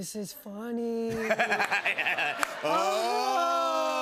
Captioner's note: laughter